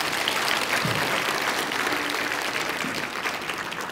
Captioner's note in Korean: 청중 박수